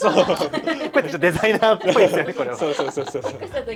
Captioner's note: laughs